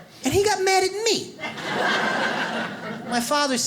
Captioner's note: audience laughs